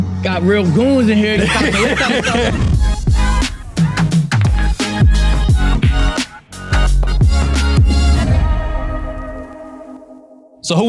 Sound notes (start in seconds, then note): 1.2 laughing